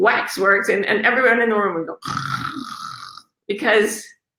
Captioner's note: snores